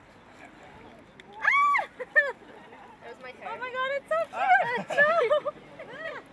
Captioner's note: screaming